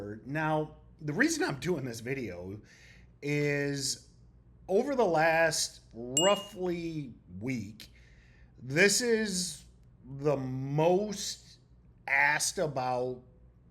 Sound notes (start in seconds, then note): 6.2 bell ringing